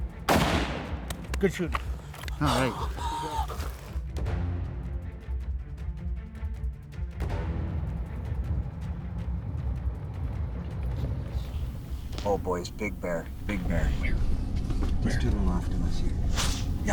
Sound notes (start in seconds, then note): 0.2 rifle shooting; 1.8 hunter gasping; 4.4 dramatic music continues